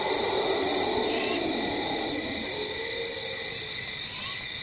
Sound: animal roaring; light jungle ambience

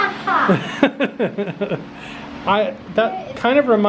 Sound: laughs

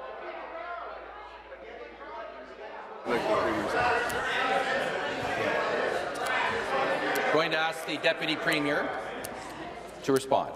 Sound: conversation din

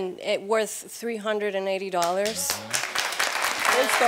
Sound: audience applauding

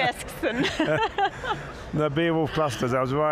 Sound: all laughing loudly

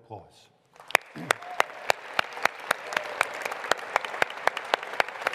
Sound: audience applauds

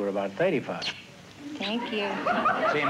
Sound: smooches

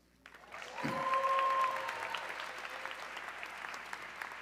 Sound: audience cheering

